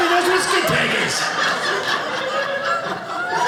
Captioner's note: audience laughing